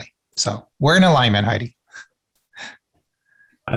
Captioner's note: chuckles